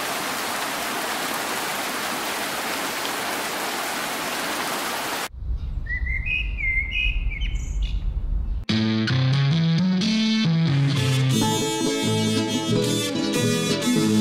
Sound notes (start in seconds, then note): 5.6 birds chirping; 12.3 country music with distorted guitar